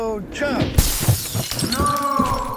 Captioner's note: window breaks